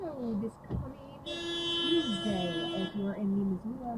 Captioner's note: van honking